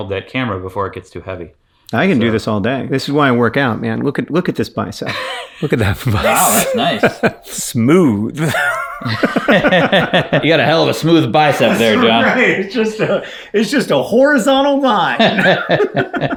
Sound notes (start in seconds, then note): 8.3 laughs